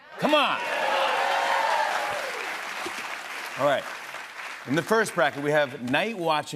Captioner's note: cheers and applause